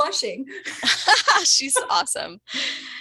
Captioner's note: laughter